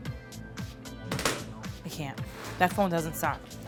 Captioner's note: phone hits table